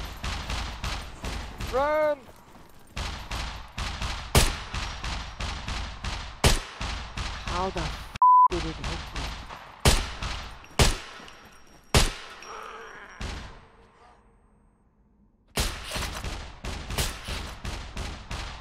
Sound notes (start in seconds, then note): 2.9 Mech Gunshots & Gunshots; 8.5 Mech Gunshots & Gunshots; 15.6 mech Gunshots